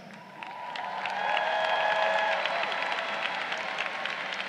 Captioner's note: crowd cheering